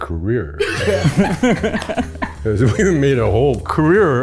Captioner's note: group laughs